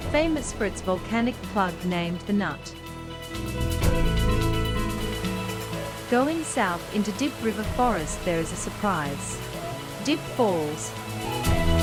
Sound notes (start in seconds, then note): 4.8 water gushing